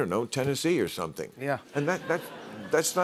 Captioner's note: laughter